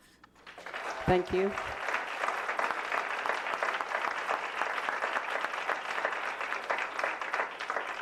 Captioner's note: applause